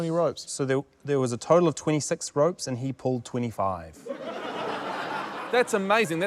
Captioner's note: laughter